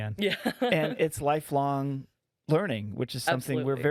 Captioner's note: laughing